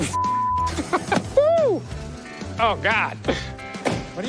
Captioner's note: laughs